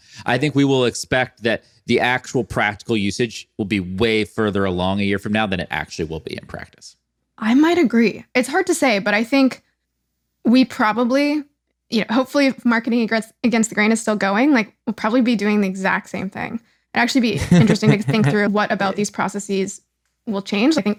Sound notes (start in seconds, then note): 17.3 laughs